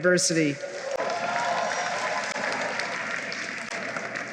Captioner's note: applause